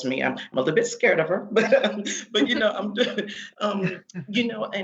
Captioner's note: crowd laughing